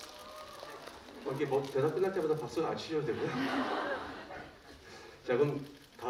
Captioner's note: laughter